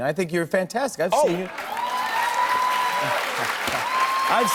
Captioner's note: cheers and applause